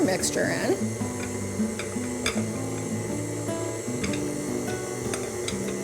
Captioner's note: blender whirling